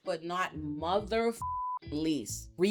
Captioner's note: beep